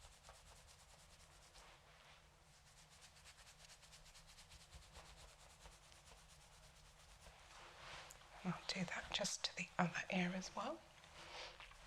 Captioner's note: silence